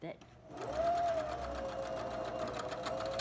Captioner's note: sewing machine hums